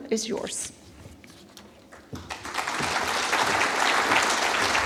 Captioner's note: applause